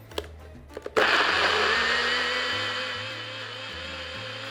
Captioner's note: machine whirs